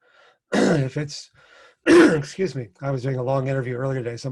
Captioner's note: coughs